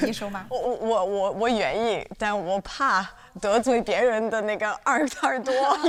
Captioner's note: speaking foreign language